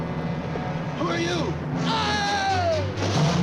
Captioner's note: screams; suspenseful orchestral music